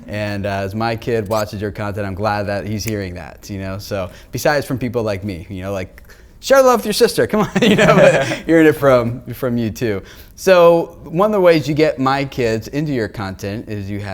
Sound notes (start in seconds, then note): 7.4 laughter